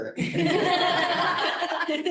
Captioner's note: laughter